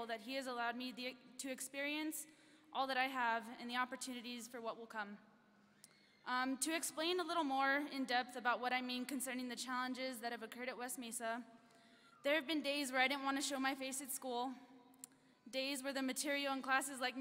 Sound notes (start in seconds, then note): none